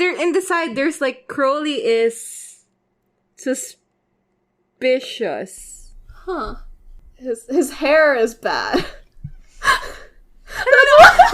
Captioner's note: both laughing